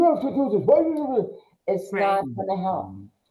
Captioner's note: woman barks